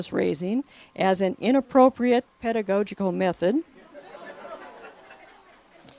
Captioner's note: laughter